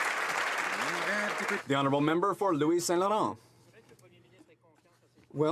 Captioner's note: some Applause